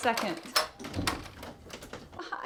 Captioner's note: doorknob rattling